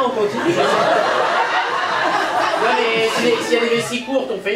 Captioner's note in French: rires public